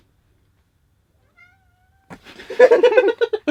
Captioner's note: meowing from Cinnamon; giggling